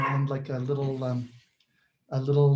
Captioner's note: Gregory’s dog barks